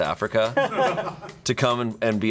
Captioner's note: crew members laughing